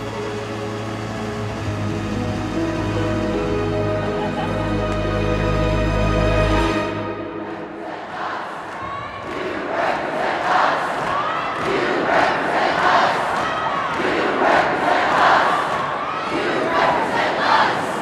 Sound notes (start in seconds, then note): 0.0 music swells; 7.0 group chant